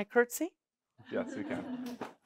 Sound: laughing

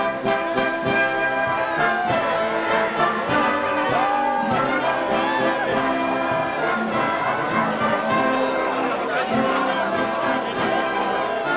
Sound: applause

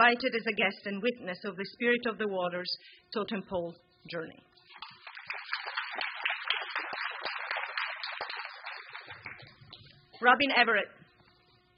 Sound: applause

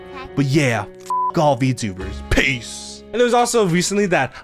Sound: beep

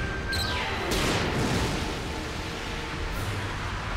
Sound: explosion

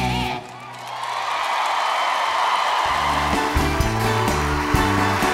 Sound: crowd cheering

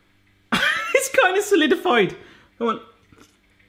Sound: laughs

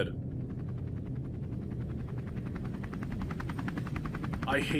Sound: helicopter sound

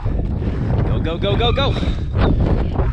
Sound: grunts

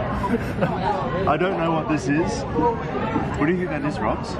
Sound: laughs

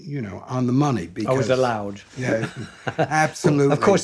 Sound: chuckling

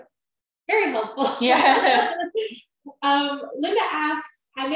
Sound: laughing

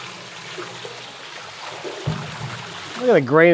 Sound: water splashing

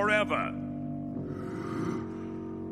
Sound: sighing

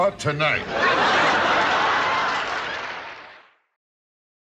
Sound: audience laughs

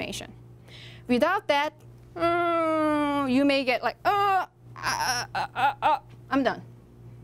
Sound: frustrated grunting

